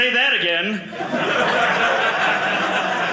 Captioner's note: audience laughing